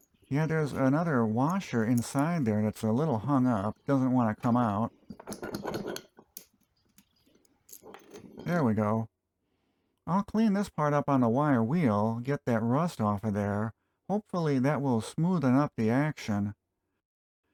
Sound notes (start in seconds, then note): 5.0 disassembly sounds